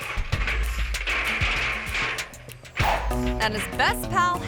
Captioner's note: ladder clattering